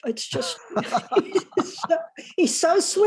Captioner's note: laughter